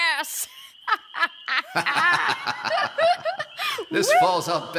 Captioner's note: Puck and Oberon laugh